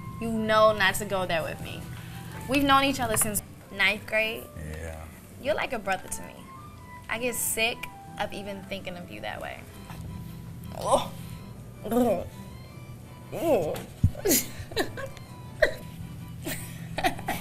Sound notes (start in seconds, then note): 10.6 soft groaning; 14.2 light laughing